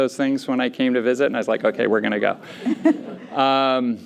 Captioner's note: laughter